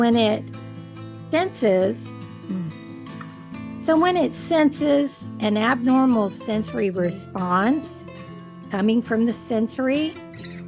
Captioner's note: chuckle